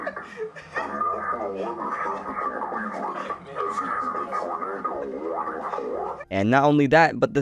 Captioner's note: laughter